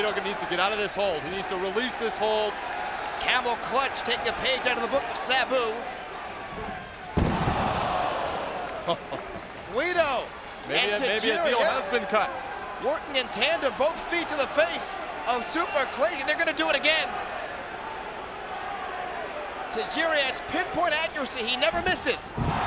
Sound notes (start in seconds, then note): 7.1 audience shouts; 8.9 chuckles